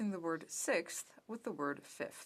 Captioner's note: speaking french